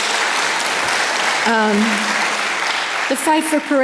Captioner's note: audience applause